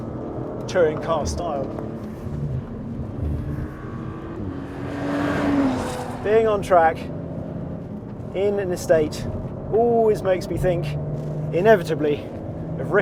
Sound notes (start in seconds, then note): 3.8 car engine racing